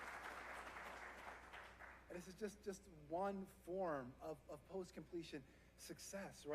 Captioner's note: applause